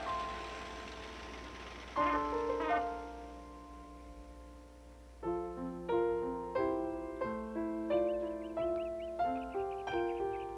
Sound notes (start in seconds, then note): 0.1 soft piano music; 1.8 horn honking; 5.1 soft piano music